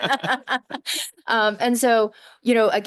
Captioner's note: laughter